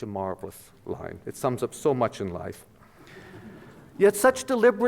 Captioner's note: audience laughter